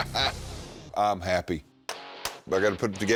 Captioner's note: chuckles